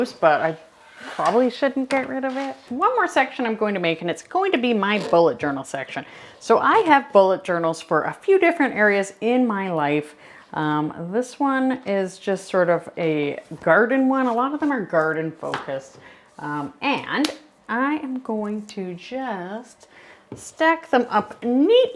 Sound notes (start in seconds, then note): none